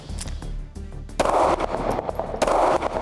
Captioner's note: clicking; gunshot; shoots gun